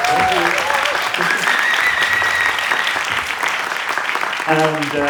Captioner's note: applause